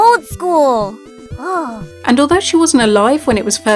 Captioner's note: gasps